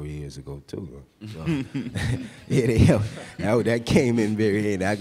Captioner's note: laughing